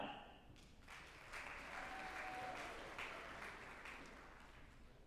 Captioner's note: group applauding